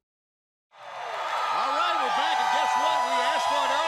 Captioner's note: crowd cheering